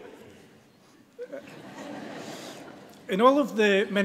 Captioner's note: audience laughs